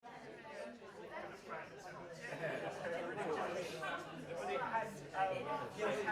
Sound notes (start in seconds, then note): 0.1 audience chatting